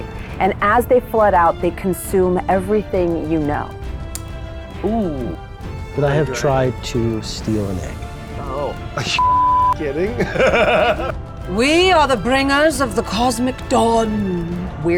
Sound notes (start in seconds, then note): 9.2 beep; 9.8 laughing